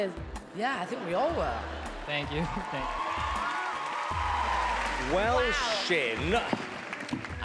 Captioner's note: cheering